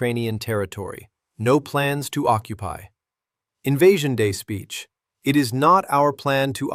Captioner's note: sarcastic